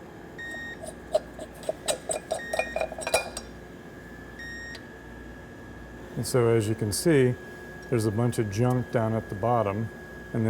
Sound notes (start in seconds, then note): 0.8 lid clanging